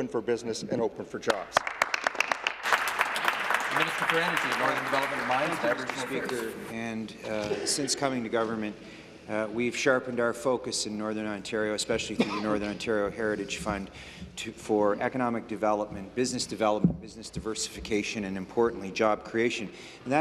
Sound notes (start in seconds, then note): 4.8 applause